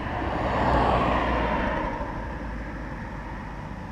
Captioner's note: car passes through